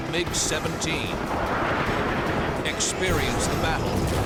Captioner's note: gunshots